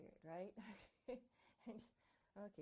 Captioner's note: chuckling